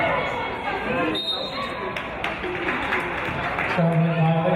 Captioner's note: referee's whistle